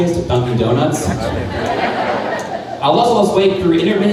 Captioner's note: crowd laughing